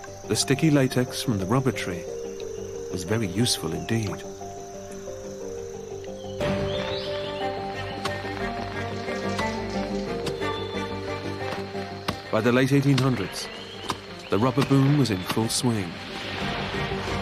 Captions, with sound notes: The sticky latex from the rubber tree is very useful indeed. (violin music) (axes thudding) By the late 1800's the rubber boom was in full swing.